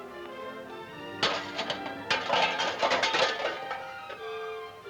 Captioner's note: can clanking